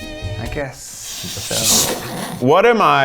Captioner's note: snickers